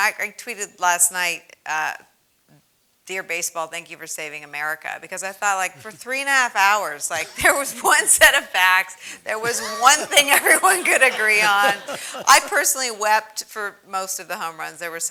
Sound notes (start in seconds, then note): 9.2 laugh